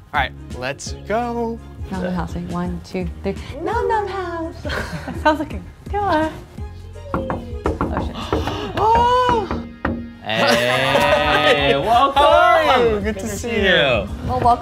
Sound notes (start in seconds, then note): 4.6 giggle; 7.1 knocking; 8.5 exclaims